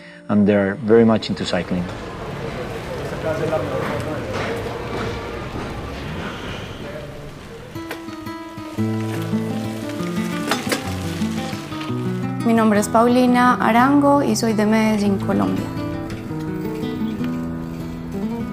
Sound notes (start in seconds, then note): 7.4 gentle guitar music; 12.4 foreign language; 16.0 soft music